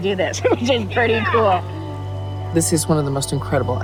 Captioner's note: chuckles